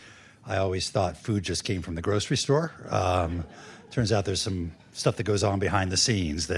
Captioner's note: laughter